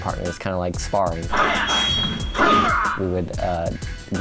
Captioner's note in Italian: suoni del gioco